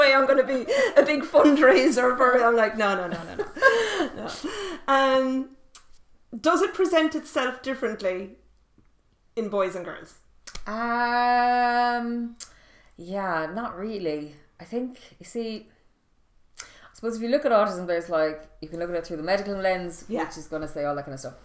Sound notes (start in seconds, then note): 2.8 laughing